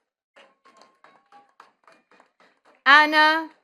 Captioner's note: attendees clapping